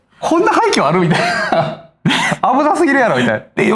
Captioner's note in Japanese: 笑い